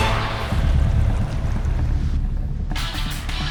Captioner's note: thunder